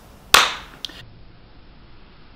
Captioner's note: hits thighs